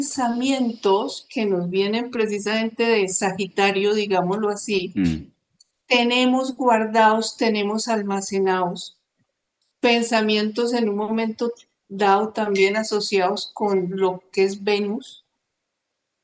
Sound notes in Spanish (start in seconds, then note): 5.0 carraspeo